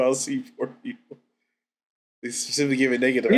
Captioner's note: laughs